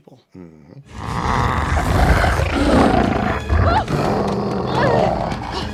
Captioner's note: growling; ferocious growling